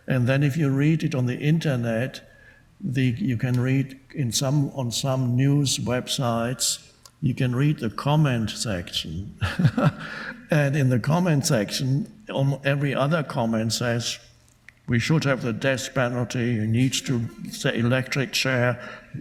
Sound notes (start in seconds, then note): 9.4 laughing